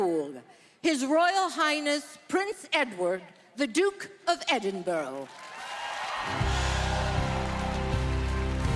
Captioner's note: speaking French